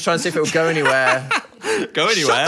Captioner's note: laughing